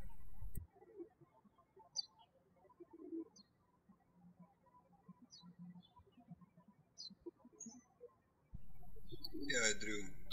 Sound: birds chirping

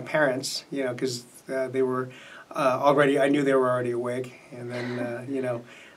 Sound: laughs

